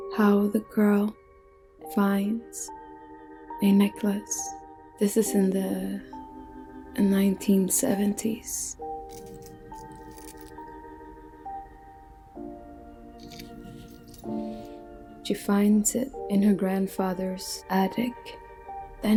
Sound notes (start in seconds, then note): 9.0 necklace jangling